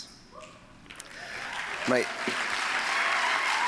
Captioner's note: applause